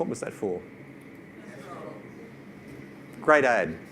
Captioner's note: audience responds